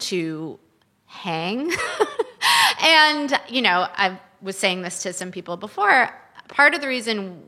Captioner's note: chuckles